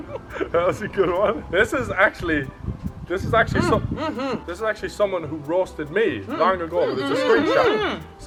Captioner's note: hurry up noise